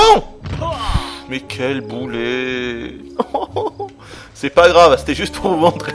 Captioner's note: tears